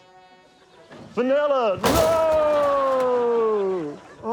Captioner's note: crash!